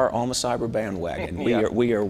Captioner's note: laughs